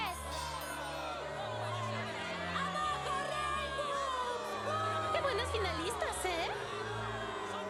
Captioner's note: booing continues